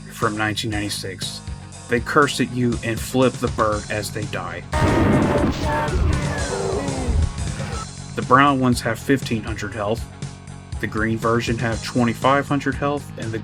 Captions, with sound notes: from 1996. they curse at you and flip the bird as they die. (Screams) "____ you!" The brown ones have 1500 health. The green version have 2500 health